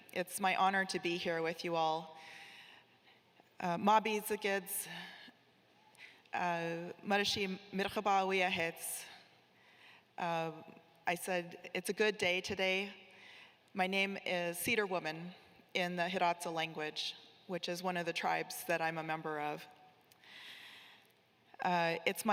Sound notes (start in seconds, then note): 4.4 speaking in foreign language